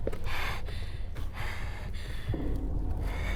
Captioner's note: Lucy panting; eerie music